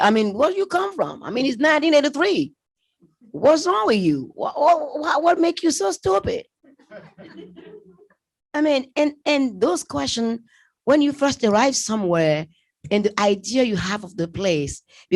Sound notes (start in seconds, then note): 6.6 laughter